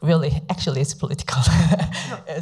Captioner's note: laughs